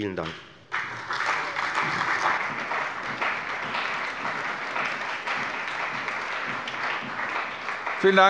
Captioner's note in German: Beifall bei der FDP, der CDU, der SPD und dem BÜNDNIS 90/DIE GRÜNEN